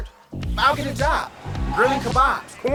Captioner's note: tires screech; transition whooshes